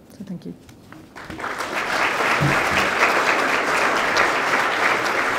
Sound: applause

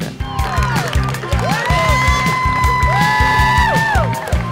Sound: cheering

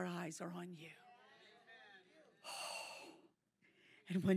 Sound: audience cheering

